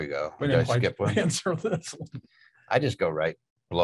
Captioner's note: laughs